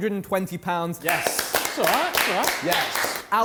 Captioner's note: contestants clapping